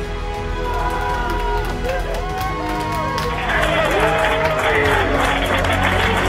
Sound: cheering

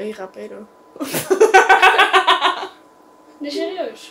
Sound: laughs very weird

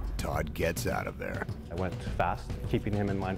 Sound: voiceover

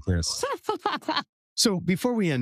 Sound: laugh

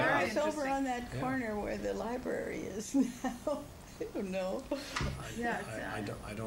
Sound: laughs

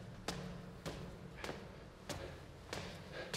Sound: breathing rapidly

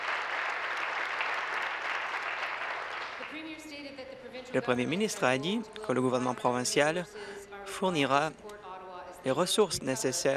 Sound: applause

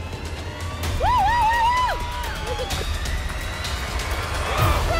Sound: intense music; cheering

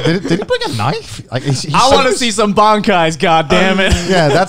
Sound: laughs

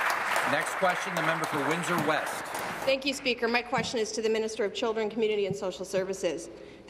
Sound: applause

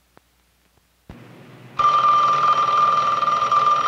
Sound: phone ringing

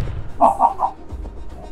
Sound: Billy Butcher cackles again

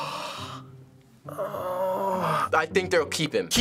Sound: gasps; conflicted groan

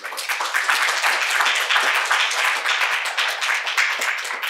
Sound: audience applauding

